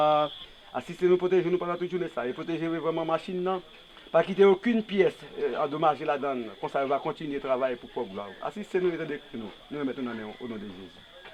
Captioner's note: praying in Creole